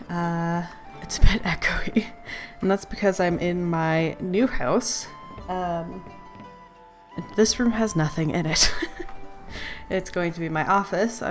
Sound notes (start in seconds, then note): 8.4 laughs